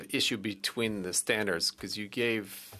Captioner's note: speaking French